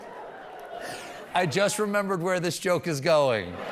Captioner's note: laughter